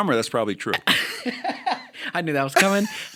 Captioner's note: chuckle